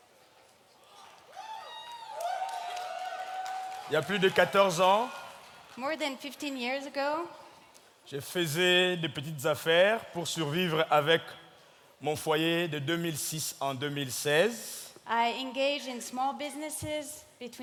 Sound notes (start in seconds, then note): 0.8 audience whooping and clapping; 4.0 speaking in French; 8.2 speaking in French